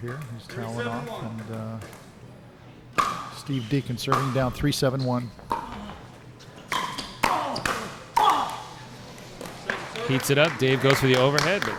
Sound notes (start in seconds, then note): 6.7 ball being smacked; 7.2 players grunting